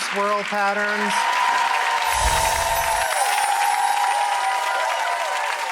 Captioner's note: audience applause and cheers